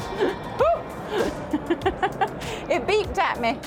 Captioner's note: laughing